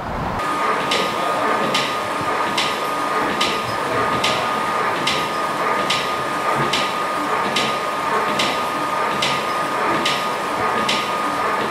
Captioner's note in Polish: jednostajny odgłos pracującej maszyny, stukanie